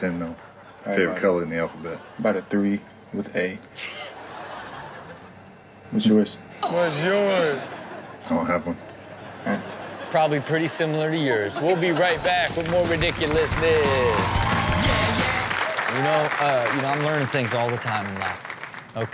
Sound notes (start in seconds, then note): 12.1 audience applauds and cheers; 12.1 upbeat intro music